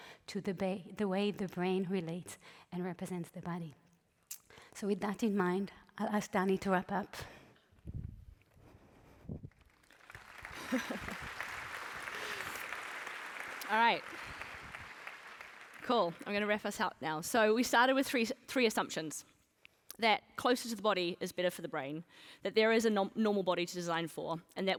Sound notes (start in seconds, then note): 9.5 applause